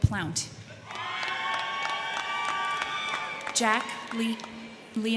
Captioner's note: crowd cheering; crowd clapping